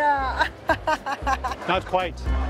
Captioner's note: laughs